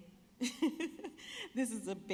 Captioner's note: laughing